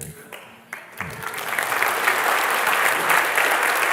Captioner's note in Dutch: applaus